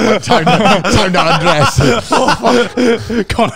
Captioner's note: laughs